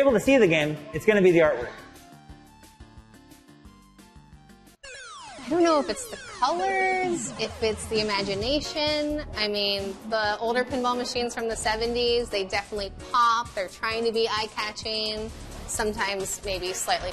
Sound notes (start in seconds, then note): 4.9 gaming machine noises